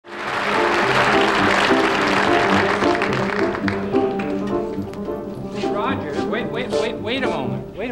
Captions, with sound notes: [audience applauding] [cheerful piano music] - Mr. Rogers, wait, wait, wait, wait a moment.